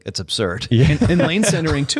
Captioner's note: laughter